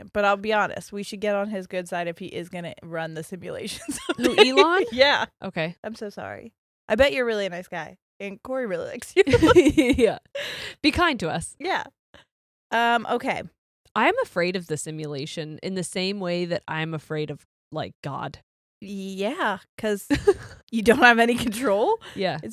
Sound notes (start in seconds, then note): 3.8 giggles